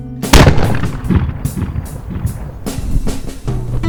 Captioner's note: gunshot echoes